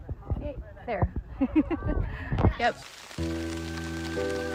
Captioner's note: laughs; upbeat music